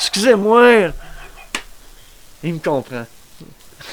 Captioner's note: laugh